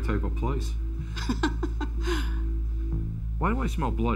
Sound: laughter

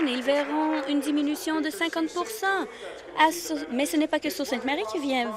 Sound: applause

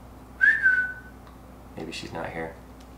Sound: whistling

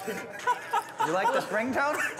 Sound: laughing

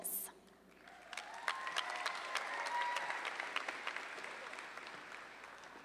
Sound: audience applauding

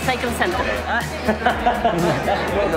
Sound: laughs

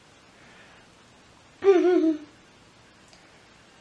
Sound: nostalgic giggle

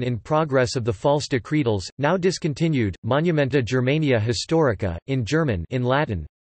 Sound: in German

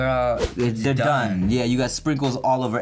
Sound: air whooshes

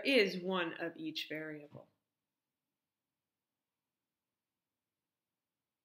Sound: silence

